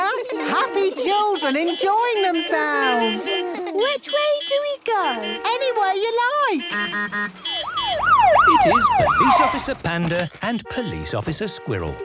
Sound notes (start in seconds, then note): 2.7 laughter; 4.0 honking, siren wailing